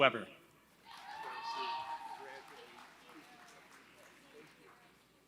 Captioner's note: applause